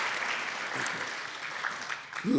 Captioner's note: applause